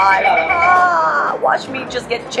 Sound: mimics scream

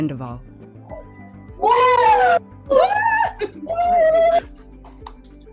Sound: cheering

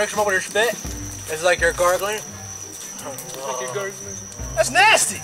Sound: gargling

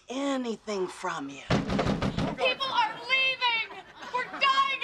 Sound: pounding on door

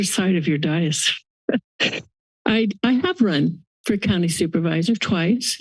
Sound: laughs

